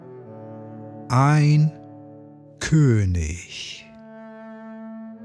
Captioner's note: german